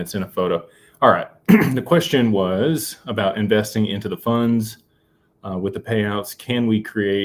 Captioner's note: clears throat